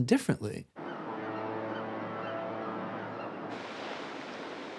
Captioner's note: ship horn blares; boat engine running, softly splashing water